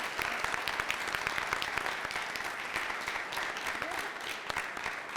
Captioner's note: applause